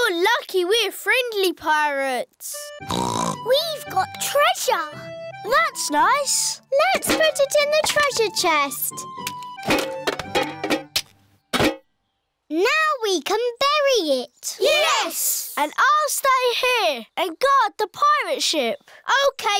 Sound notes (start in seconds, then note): 2.8 snorts